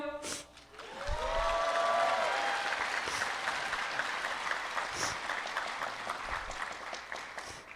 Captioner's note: applause